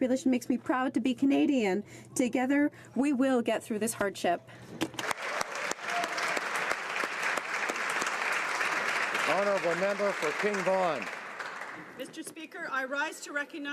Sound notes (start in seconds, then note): 7.9 applause